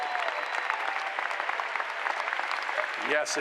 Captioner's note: applause